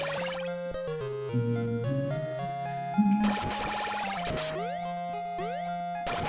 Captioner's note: humming along